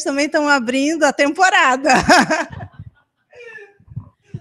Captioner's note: laughs